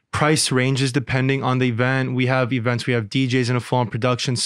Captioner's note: none